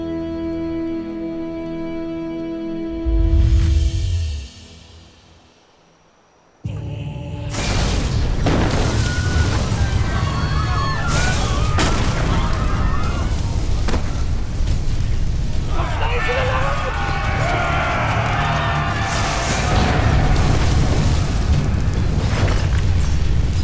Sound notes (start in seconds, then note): 0.1 music fades; 6.4 suspenseful music playing; 8.1 explosion; 8.8 screaming & panicking; 11.7 explosion; 11.7 screaming & panicking; 17.5 screaming; 19.0 explosion